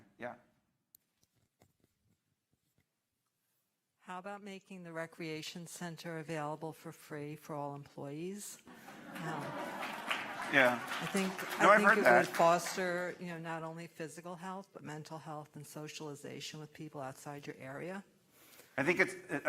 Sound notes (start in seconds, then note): 10.2 laughter; 11.0 applause